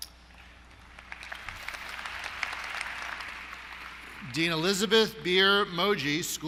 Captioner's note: applause